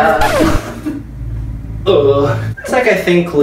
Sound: record scratches

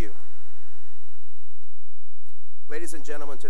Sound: cheering and applause

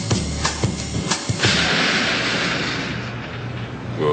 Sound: crash

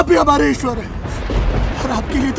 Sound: thundering

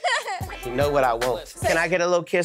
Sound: everyone giggling

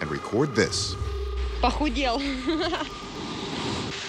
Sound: woman speaks in native language

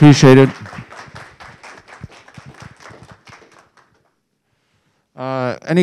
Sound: audience clapping

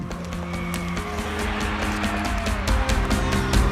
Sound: cheering; energetic drum music

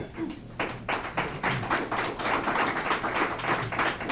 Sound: applause

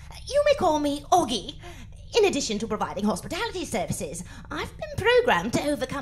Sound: none

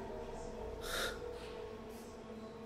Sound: starts crying

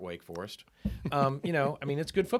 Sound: laughing

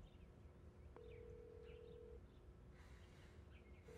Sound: phone ringing

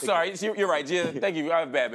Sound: laughs

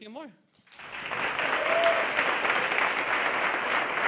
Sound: audience applause

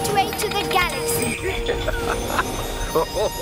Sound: Babu chuckles

